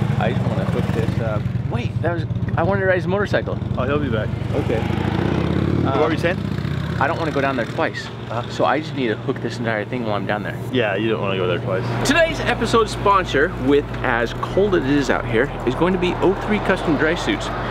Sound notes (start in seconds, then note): 5.5 motorcycle revving